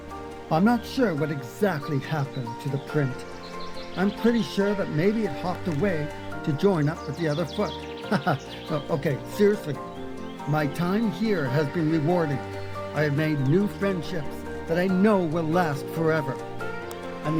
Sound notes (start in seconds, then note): 7.2 laughing; 16.3 bright music